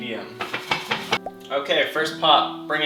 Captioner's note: bubble pop